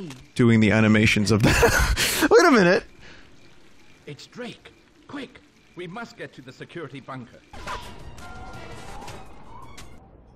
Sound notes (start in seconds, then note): 1.4 laughs